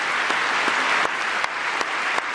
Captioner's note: applause